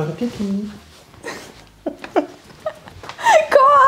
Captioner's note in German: beide lachen